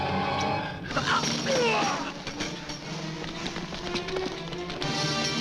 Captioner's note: man grunting